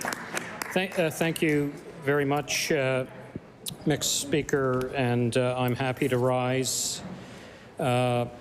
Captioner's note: applause